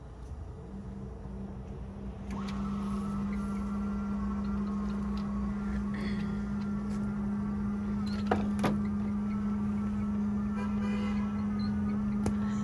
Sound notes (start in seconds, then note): 0.5 machine whirring; 10.4 car honking